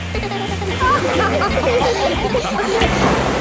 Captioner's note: giggles; laughing